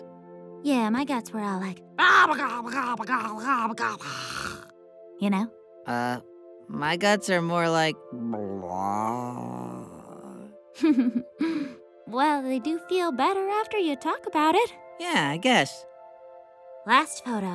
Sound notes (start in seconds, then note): 1.5 grumbling; 10.8 laughs